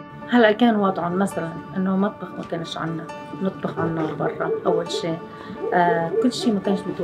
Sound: Arabic language

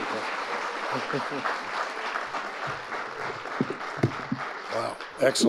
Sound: audience applauding

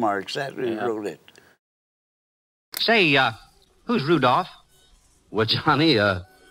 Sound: old radio broadcast

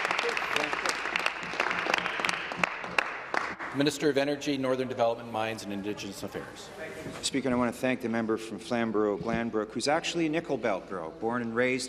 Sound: applause

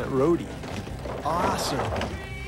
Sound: road case rumbles while rolling

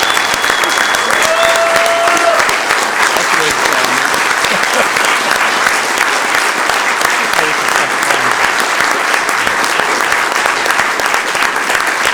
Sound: applause

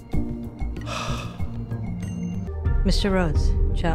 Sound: Mike sighs

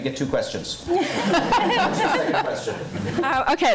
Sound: laughing

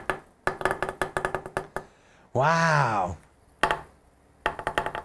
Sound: wood taps

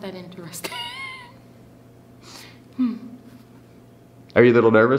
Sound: interviewee laughs

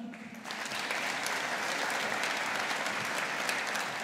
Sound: audience applauding

